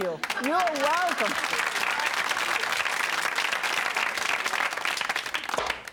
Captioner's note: audience applause